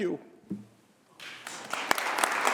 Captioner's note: applause